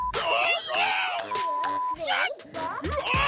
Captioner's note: excited exclamations